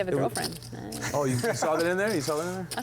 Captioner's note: laughs